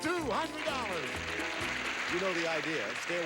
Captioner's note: audience applauding